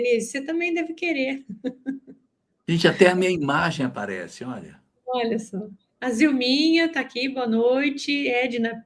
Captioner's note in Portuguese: risadas